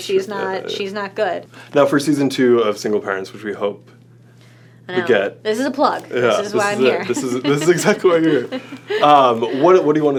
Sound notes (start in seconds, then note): 6.9 laughs